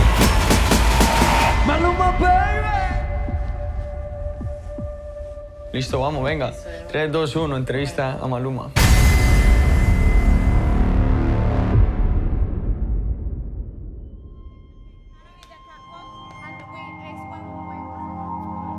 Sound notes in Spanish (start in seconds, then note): 1.1 en inglés; 5.1 en español